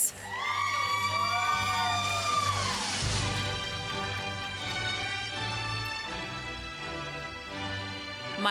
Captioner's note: applause